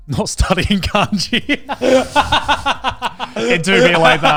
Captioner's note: laughs